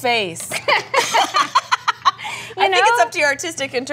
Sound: both laughing

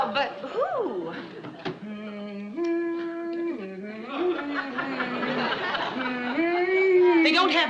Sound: Lucy humming tune

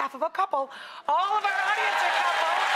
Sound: crowd cheering

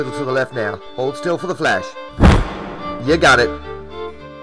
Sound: camera flash

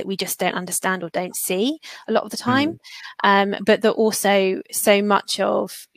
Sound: erm

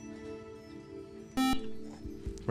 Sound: beep

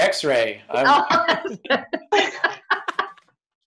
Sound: laughing

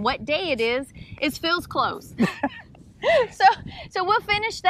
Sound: laughing

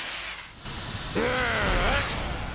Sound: growls

